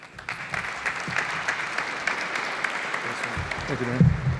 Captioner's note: applause